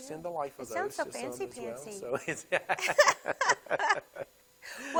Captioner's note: both laugh